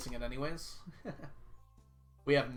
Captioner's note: laughs